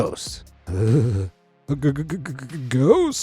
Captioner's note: narrator shivering